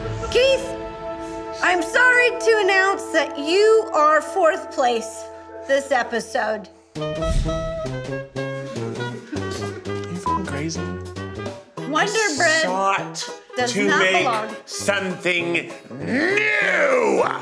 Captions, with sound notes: Keith, I'm sorry to announce that you are fourth place this episode. (jazzy music) - Are you (beep) crazy? I sought to make something new.